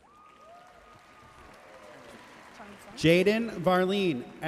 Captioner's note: audience cheering and applauding